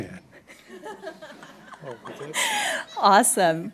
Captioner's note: laughing